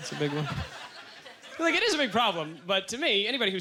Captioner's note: audience chuckles